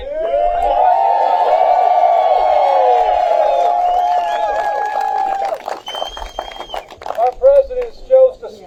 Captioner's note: applause